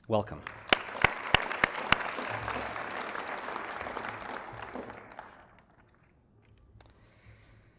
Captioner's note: applause